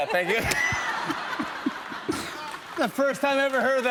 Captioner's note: laughter